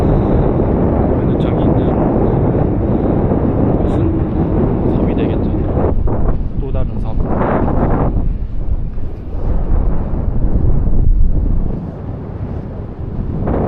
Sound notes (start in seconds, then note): 0.0 the wind noise is really loud